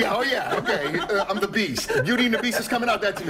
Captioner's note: laughter